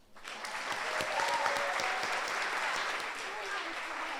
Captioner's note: audience applauds